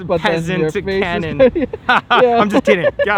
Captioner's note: both laughing